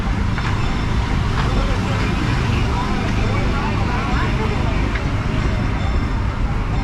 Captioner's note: train bell clanging